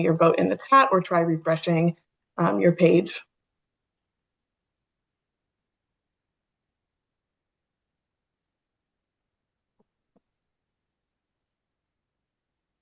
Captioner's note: pause